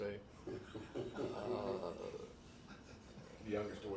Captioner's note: man laughs